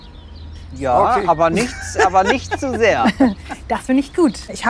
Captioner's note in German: lacht